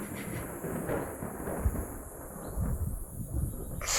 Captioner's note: thunder rolling